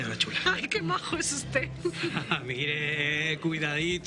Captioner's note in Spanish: Ríe